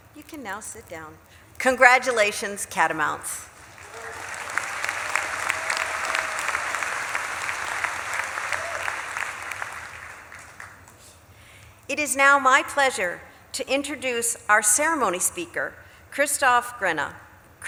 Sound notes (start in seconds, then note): 3.4 audience claps and cheers